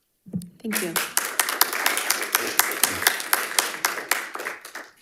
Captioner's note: audience applauding